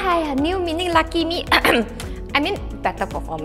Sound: ehem

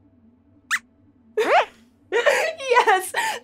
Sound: squeaks squeaks

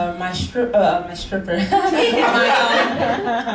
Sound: laughs

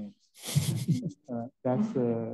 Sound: panelists snicker

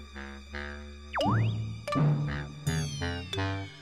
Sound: swoosh

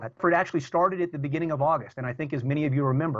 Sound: audio corruption

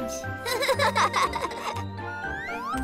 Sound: both chuckle

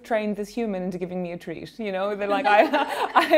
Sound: laughing

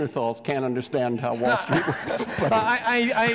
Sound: audience laughs; laughs

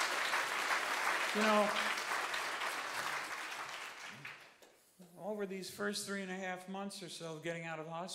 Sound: applause

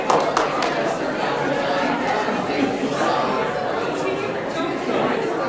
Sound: people clapping; people talking loudly

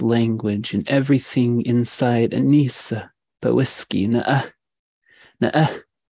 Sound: speaking in indigenous language

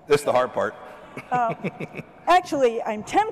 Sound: laughter

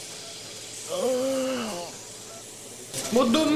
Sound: muffled cry

